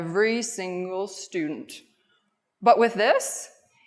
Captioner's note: none